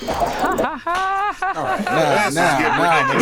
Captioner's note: laughs